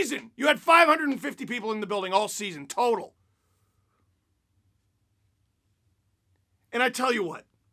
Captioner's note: pause for breath